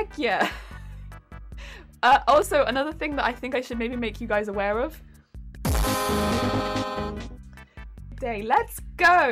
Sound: horn

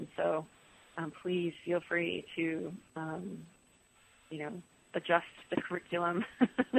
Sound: laughs

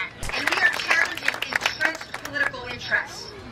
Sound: applause

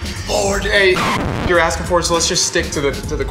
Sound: screeches

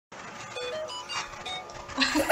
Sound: samsung ringtone

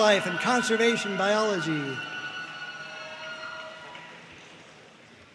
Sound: audience cheering and applauding

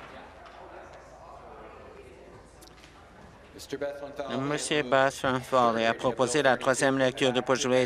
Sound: applause

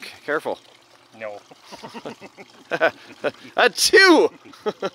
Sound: laughing

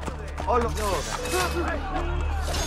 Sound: hidden blade stabbing sound

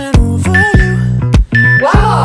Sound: timer beeping

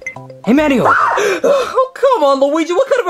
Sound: Mario gasping

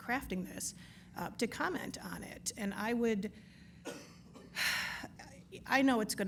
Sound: sighs

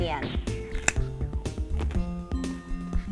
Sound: crunches

